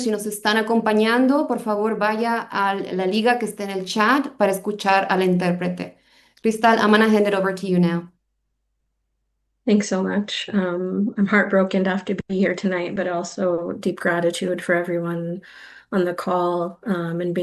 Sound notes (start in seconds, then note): 6.2 speaking spanish